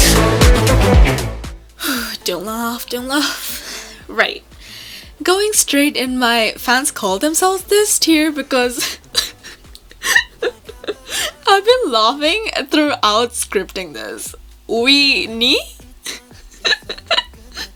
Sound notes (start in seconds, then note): 8.6 laugh; 16.5 little aloka-style laugh